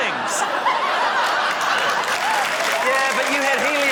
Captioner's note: laughter, applause